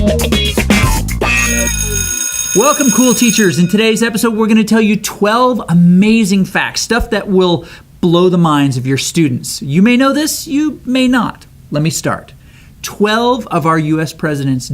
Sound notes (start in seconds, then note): 1.3 school bell rings